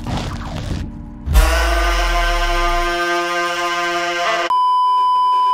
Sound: intense horn #2; beeeeeep

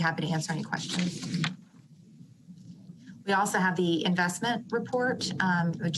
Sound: rustling of papers

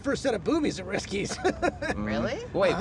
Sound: chuckles

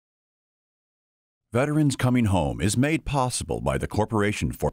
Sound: voiceover

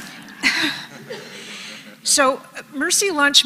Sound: laugh

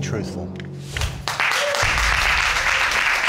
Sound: audience applauding

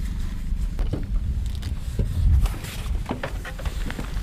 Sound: shuffling

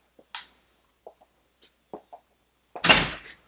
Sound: footsteps; door slams

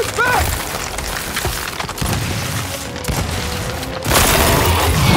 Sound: gunshots

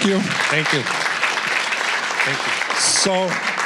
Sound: applause

